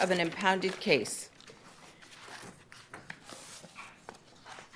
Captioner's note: paper rustling